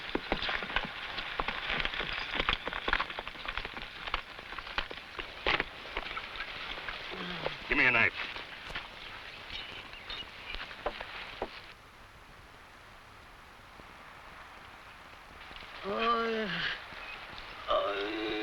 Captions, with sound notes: (horse hooves pattering) (man groans) - Give me a knife. (man groans)